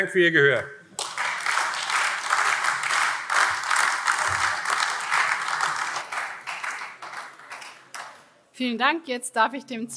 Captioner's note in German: Beifall AfD